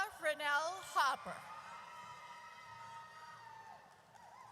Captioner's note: audience cheers